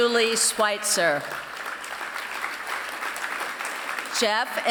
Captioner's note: applause